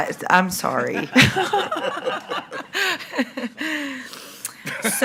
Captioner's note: all laughing